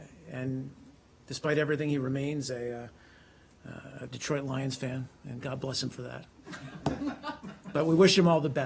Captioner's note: laughter